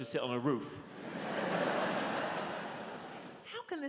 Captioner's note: audience laughs